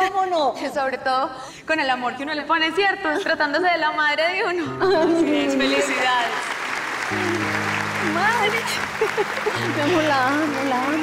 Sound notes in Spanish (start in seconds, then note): 7.1 Ovación